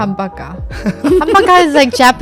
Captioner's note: laughing